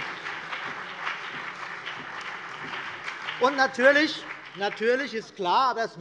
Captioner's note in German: Beifall BÜNDNIS 90/DIE GRÜNEN und vereinzelt CDU